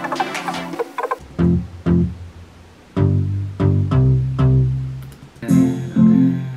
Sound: boom-boom

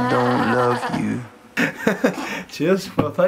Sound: laughing

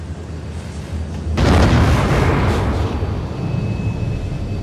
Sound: thunderous explosion

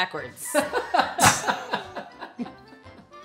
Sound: laughing

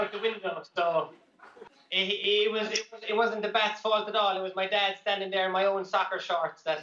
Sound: laughter

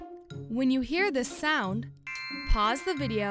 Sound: magical chime

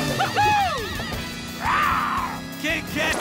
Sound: roars

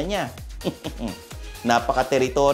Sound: chuckles

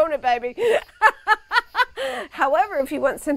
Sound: laughs

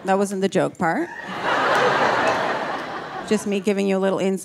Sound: audience laughing

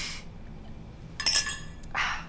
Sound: clinking

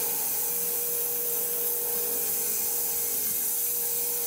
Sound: saw blade humming

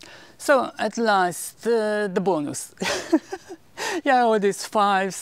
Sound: giggle

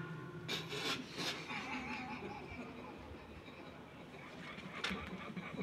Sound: crew laughs

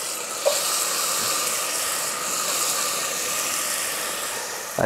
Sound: onions sizzling

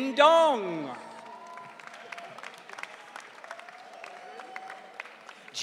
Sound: audience cheering

